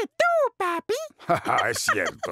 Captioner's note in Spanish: risas